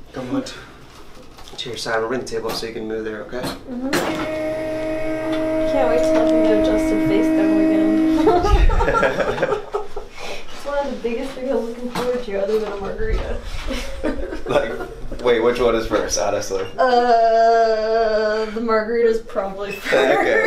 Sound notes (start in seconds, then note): 8.2 laughs